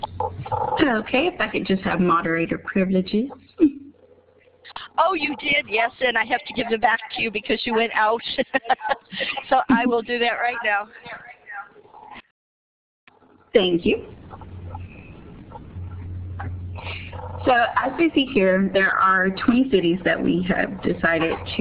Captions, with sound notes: >> Okay, if I could just have moderator privileges. >> Oh you did, yes, and I have to give them back to you because you went out [laughing]. So I will do that right now. >> Thank you. So, as we see here, there are 20 cities that we had decided